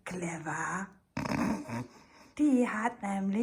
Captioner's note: snorts